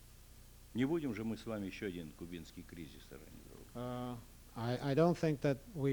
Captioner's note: non-english speech